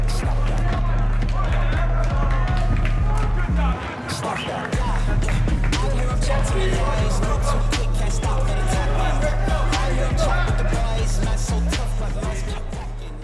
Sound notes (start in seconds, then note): 1.3 players cheering and clapping; 8.7 players cheering and clapping